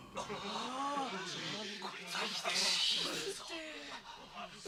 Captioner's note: SFX: crowd talking